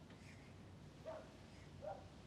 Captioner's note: dog barks